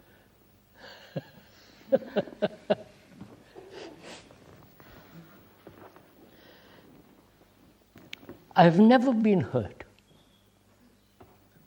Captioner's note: laughs